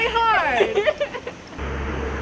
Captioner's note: laughing; laughter